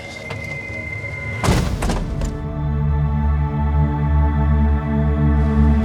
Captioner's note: soft music; truck door thuds